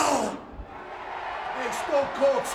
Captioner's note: crowd cheering